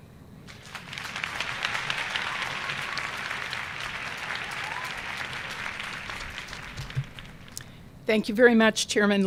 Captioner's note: applause